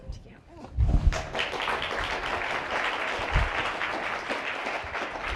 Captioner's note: audience applauding